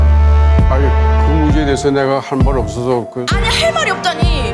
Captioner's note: speaking Korean